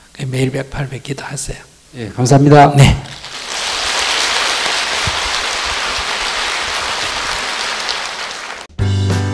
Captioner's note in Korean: 청중 박수